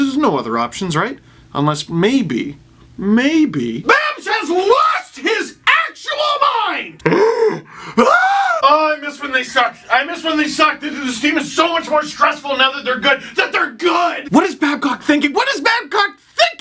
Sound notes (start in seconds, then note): 6.3 muffled scream